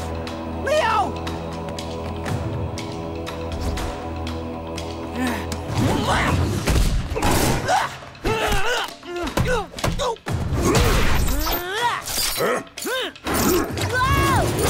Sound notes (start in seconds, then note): 5.6 grunting